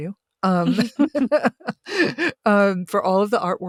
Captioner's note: laughing